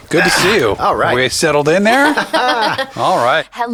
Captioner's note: laughter